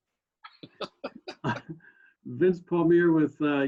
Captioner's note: laughs lightly